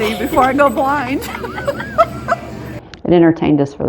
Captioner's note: laughing